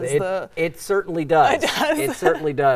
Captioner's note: laughs